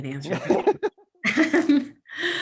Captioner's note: laughter